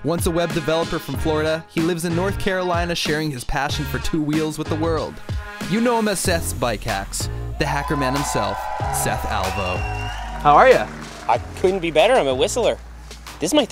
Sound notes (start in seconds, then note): 9.5 audience cheers